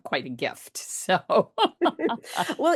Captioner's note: laughs